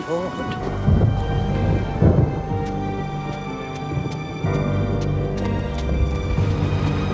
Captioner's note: dramatic orchestral music; thunder crashing